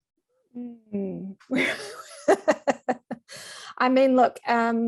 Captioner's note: laughing